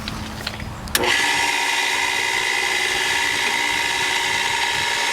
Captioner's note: pool pump whirring